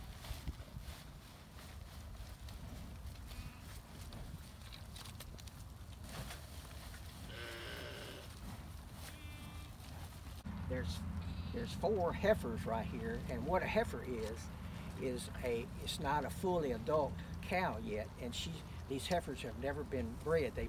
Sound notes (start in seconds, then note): 0.2 feed sack rustles; 7.3 cows moo